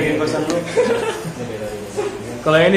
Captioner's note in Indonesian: ketawa